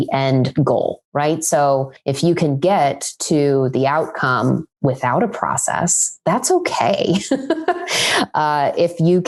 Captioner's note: laughs